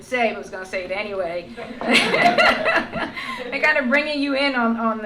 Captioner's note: laughter